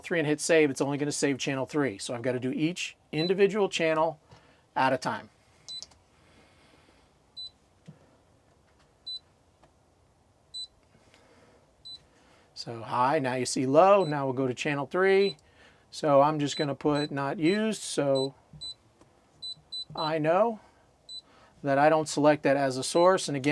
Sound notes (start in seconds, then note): 9.0 beeping; 19.4 beeping